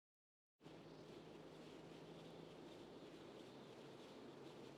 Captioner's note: wind